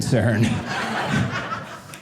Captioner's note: audience laughing